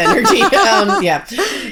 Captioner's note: both laughing